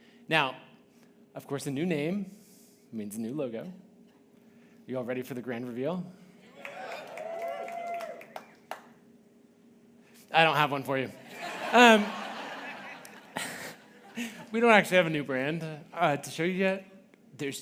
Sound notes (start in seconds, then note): 6.5 audience cheering; 11.2 audience laughing